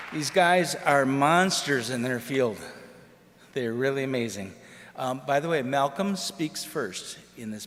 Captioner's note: applause